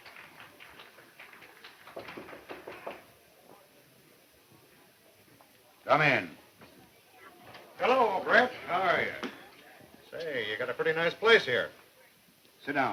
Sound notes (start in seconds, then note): 2.2 gentle knocking